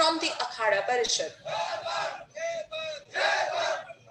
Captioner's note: chanting